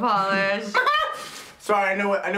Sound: laughs

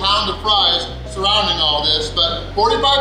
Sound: none

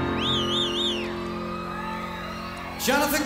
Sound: audience cheering

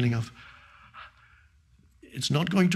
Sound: Eckhart panting

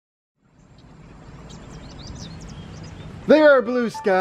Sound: birds singing

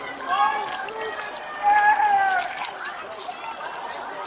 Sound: hollering; keys jangling

